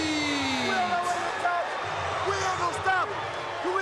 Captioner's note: crowd cheering